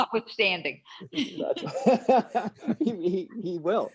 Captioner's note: laughter